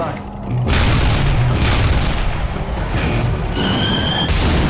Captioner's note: explosions booming